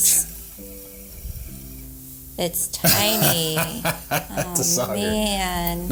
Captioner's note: laughs